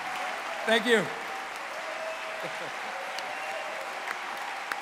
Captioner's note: applause